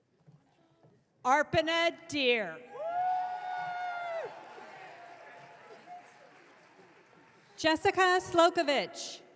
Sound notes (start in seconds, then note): 2.8 audience cheering